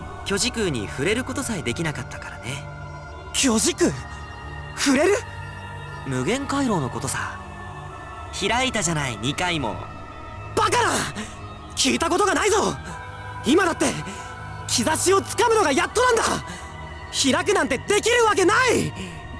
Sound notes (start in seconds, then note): none